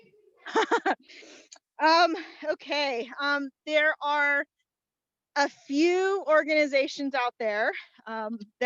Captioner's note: laughter